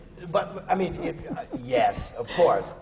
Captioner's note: laughs